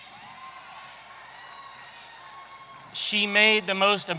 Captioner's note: audience cheering